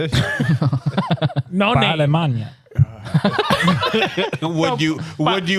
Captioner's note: laughing; speaking Spanish